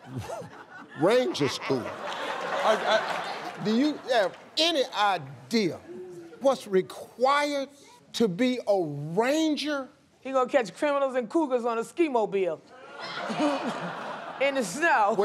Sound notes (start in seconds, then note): 1.9 laughter